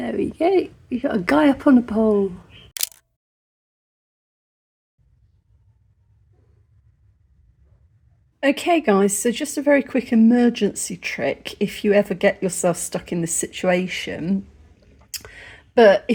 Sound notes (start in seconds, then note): 2.7 camera click